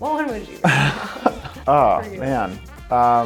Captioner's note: laughing